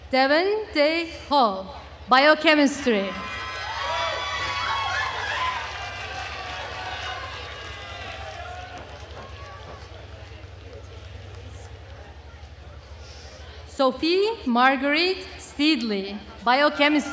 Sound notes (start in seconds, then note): 3.2 attendees cheering and applauding